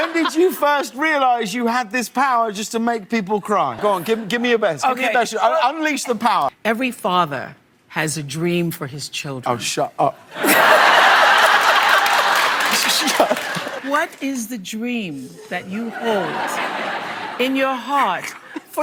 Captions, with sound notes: Oh, shut up. [Audienc laughs] What is the dream that you hold in your heart? I just want.. it just feels like this every day... [Laughs] This scenario isn't unique to Oprah; she's been bringing people to tears her whole career.